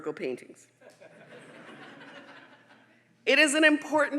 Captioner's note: audience laughing